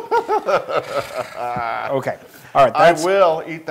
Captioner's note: laugh